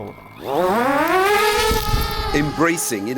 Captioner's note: drone buzzing